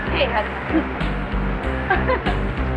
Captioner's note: laughing